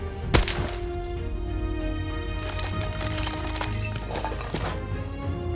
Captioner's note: kersplutch